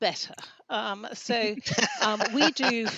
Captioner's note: laughter